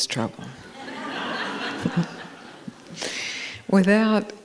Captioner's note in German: Gelächter